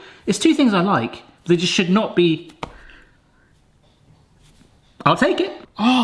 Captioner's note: none